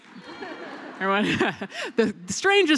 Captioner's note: applause